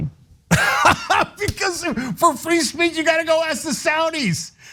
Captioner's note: laugh